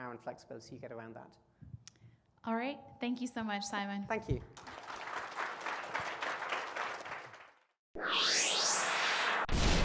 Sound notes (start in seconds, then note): 4.5 applause